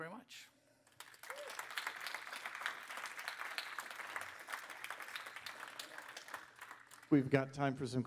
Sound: applause

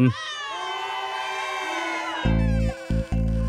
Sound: llamas moan

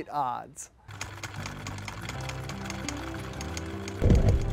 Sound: film reel clicking

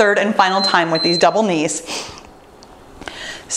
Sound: timer beeps

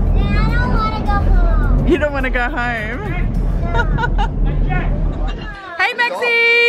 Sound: laughs

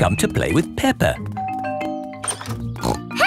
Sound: doorbell rings

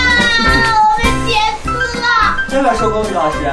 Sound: wailing

